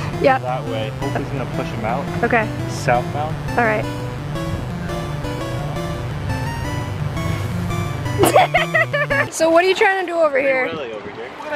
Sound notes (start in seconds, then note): 4.2 upbeat 8-bit music; 8.2 laughing